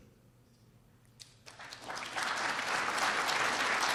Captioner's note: applause